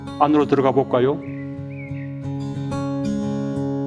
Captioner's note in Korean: 새 지저귀는 소리